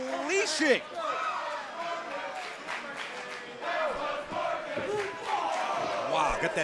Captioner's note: crowd cheering